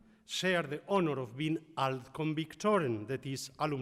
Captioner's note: speaks in foreign language